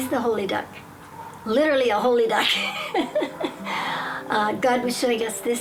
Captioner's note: laughing